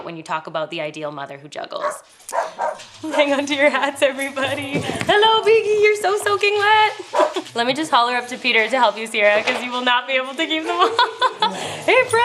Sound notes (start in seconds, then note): 2.2 Biggie barking; 7.1 Biggie barking; 10.6 laughing